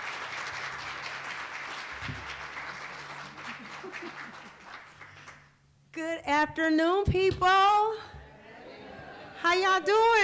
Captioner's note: applause